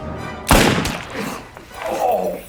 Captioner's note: gun firing; groaning; gun firing